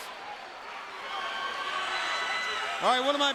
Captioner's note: audience cheering